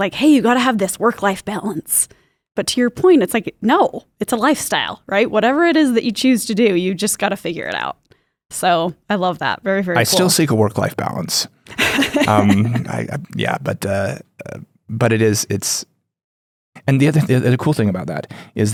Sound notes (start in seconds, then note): 11.7 chuckles